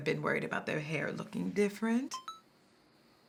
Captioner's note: phone chimes